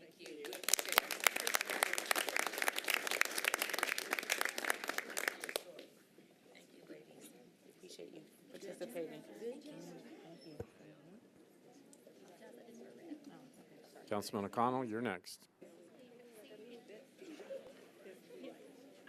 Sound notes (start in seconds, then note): 5.2 applause